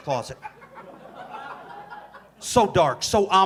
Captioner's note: audience laughing